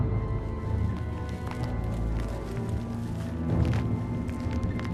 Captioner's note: rustling dirt